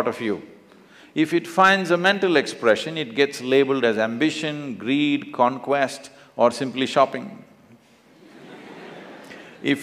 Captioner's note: laughter; 笑聲